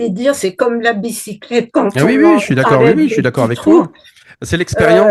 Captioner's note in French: rires